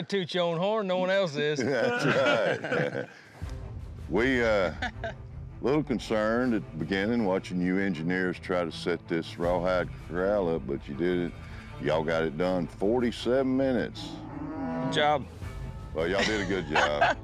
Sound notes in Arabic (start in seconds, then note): 1.5 ضحك